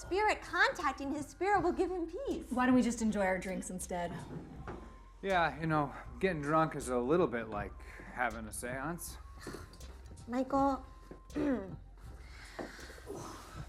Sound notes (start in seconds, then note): 10.8 atmospheric electronic music; 11.3 sighing